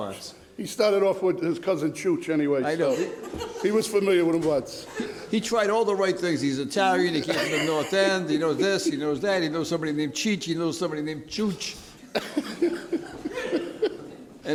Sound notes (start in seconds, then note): 0.0 speaks in foreign language; 4.4 speaks in foreign language; 12.0 laughter